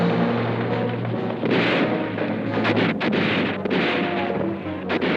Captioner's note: gunfire blasting